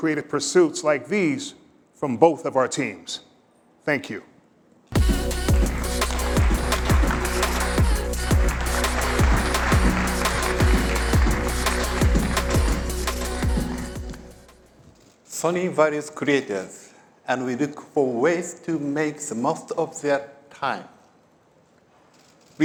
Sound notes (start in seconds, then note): 4.9 applause